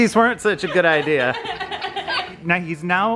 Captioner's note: laughs